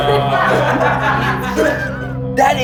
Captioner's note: laughing